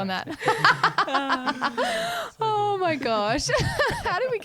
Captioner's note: laughing together